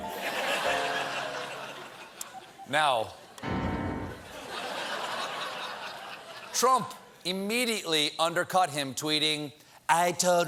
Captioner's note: laughter